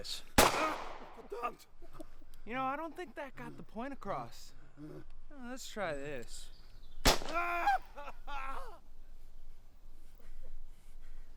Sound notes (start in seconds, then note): 0.3 gun fires; 1.1 yells in German; 7.0 gun fires; 7.2 shouts in pain